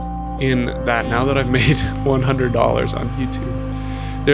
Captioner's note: laughs